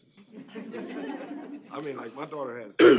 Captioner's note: laughter